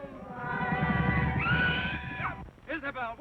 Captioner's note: screaming